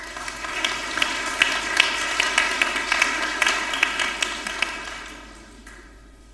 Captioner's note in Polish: oklaski